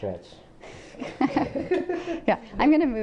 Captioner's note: laughter